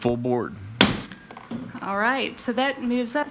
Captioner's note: mallet thudding